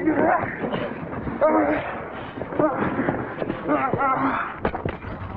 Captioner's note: grunting